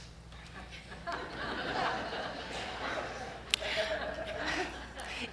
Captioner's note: audience laughs